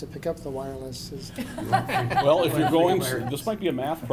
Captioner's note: laughing